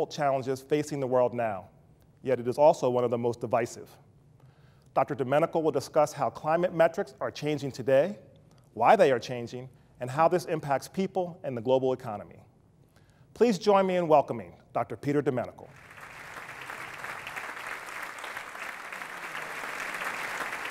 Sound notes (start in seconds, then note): 15.7 applause